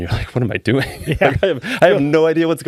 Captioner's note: laughing